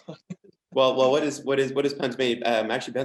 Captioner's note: chuckles